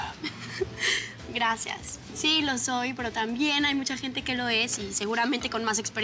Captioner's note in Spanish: Risas